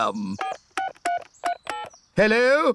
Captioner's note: dialing phone